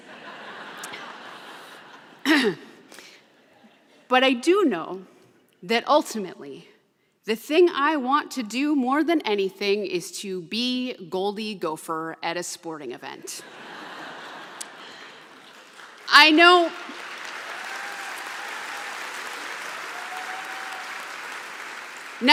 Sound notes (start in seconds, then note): 0.0 laughter; 2.3 clears throat; 13.4 laughter; 17.5 applause; 19.0 cheers and applause